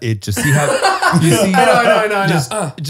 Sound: they all laugh

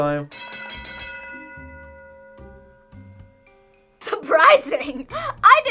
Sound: bell rings

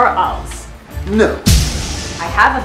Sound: poof!

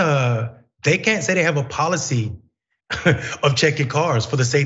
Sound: laugh

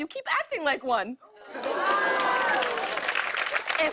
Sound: audience "Oh"s

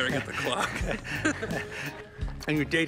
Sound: Kevin and Jeff laughing

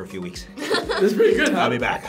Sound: laughs

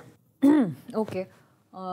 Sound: clears Throat

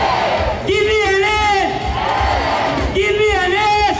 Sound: crowd

